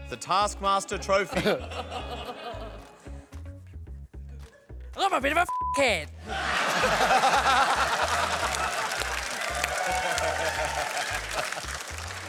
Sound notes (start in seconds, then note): 6.2 laughter